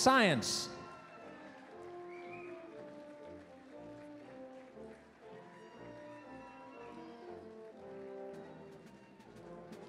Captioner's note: applause, cheering